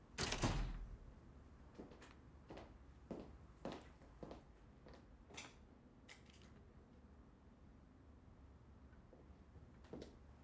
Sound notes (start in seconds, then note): none